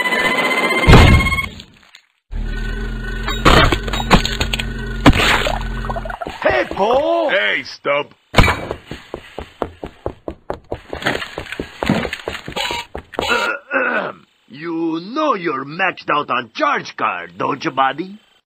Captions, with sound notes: Hey, Bo! Hey, Stump! (metal clanging) (clears throat) You know you're maxed out on charge card, don't you, buddy?